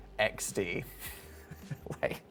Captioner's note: chuckles